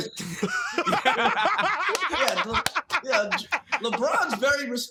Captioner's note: laughter